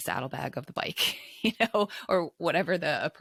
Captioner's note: chuckles